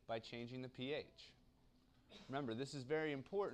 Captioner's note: cough